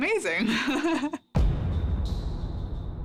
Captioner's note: chuckles